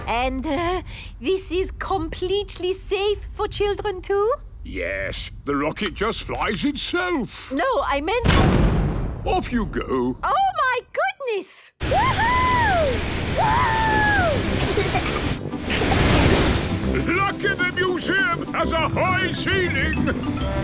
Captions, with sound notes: And, er... this is completely safe for children too? - Yes. The rocket just flies itself. - No, I meant-- - (blasts off) - Off, you go! - Oh, my goodness! - Wooohooo!! - (rocket thrusting) - Lucky the museum has a high ceiling!